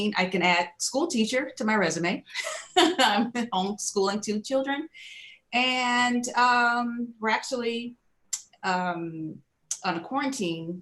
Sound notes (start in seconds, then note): 2.4 laughing